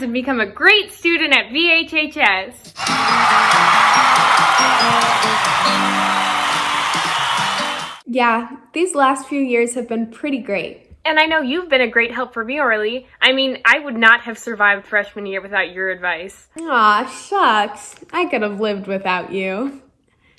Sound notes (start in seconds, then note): 2.7 upbeat music; 2.7 crowd cheering